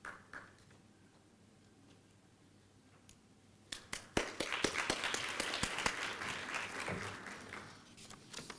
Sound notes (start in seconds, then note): 3.7 applause